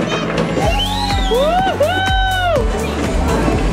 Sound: cheering; upbeat music

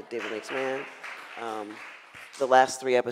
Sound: audience clapping

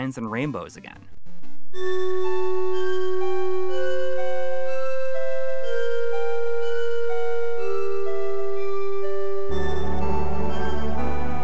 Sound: game audio

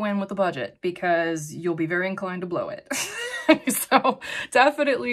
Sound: chuckles

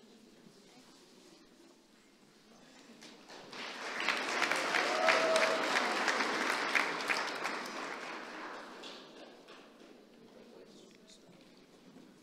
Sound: applause

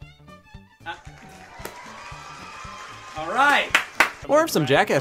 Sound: crowd applauds

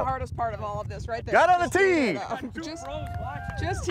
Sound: applause

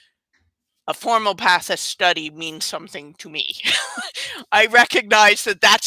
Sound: laughs

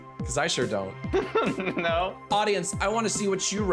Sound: laughing

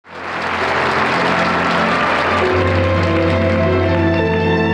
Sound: audience applauding; gentle music

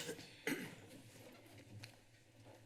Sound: coughing

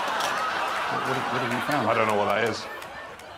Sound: audience laughing

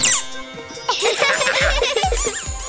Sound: laughing

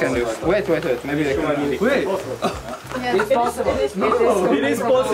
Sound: all chattering

